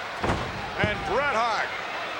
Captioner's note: body thuds